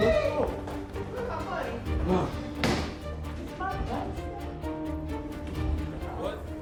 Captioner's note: group exclaiming, yelling; dramatic music